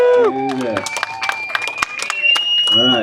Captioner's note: crowd cheering